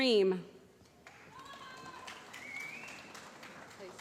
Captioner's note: applause